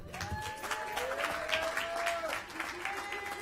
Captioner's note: cheering and applause